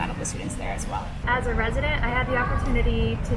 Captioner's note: people chattering